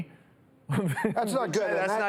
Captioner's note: laughs